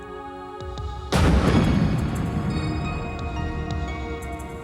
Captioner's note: explosion bangs